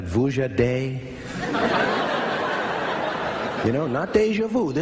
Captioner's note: laughter